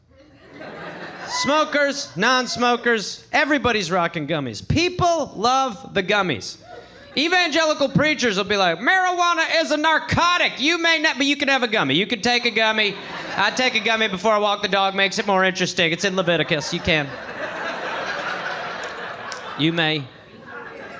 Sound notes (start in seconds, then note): 16.0 audience laughing